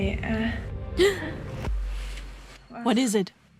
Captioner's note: gasps